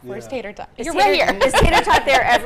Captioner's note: laughs